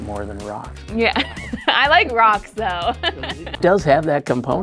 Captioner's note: laughing